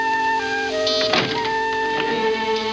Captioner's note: buzzer